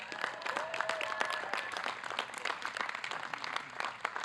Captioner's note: audience clapping